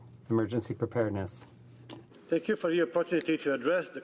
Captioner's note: speaking French